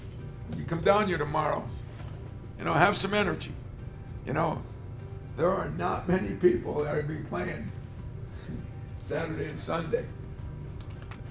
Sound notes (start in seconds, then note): 7.5 laughs